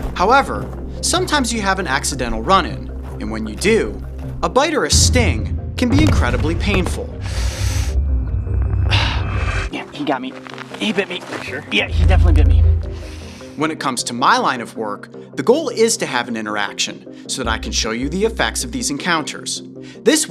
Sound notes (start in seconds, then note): 7.2 gasping